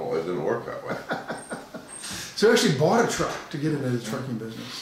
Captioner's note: laughing